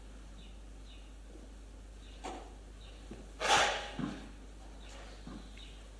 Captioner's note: blows nose